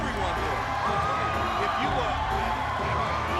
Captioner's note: audience cheers